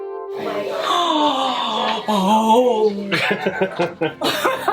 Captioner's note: gasps; laughter